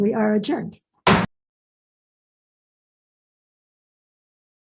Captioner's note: gavel banging